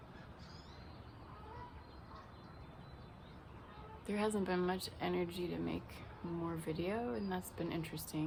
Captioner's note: birds chirping